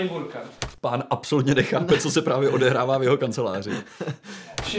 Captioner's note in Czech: smích